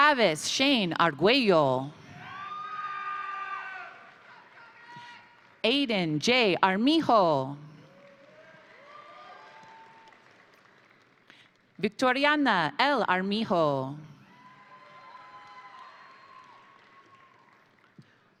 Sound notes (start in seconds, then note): 2.2 crowd cheering; 2.4 crowd applauding; 7.8 crowd applauding; 8.0 crowd cheering; 14.2 crowd cheering; 14.3 crowd applauding